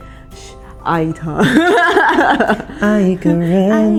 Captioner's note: laughter